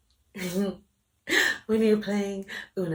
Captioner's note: giggles